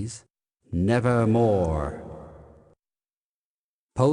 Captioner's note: echoing